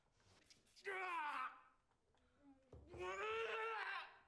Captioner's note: groans